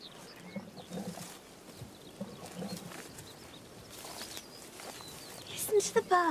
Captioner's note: birds chirping